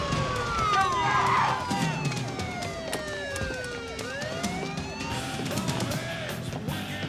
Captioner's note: sirens wail